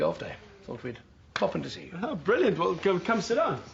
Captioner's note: slaps